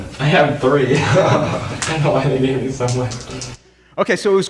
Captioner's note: laughs